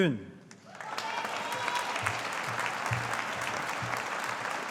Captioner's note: audience applauding